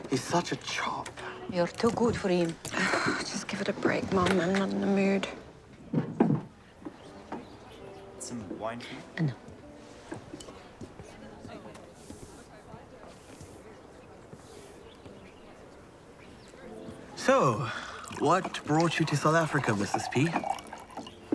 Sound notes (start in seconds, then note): 2.6 sighs; 9.9 indistinct chatter in distant